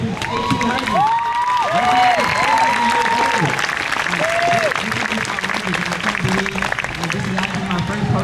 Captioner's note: crowd cheers